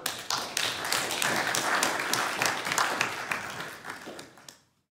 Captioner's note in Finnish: Aplodeja